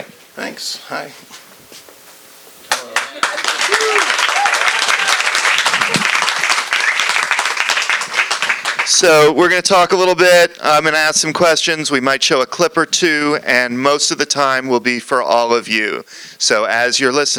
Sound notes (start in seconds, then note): 2.6 applause